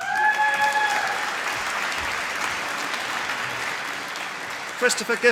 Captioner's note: applause